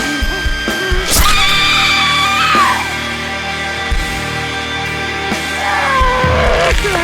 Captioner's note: Theo grunts; Cammy screams; flesh squelches; flesh squelching; Cammy wailing